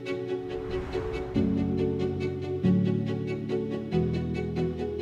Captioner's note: graphic whooshing